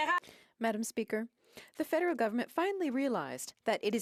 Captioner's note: speaking French